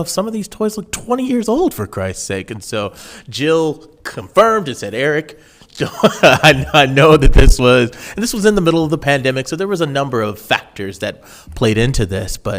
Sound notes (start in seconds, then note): 5.8 laughing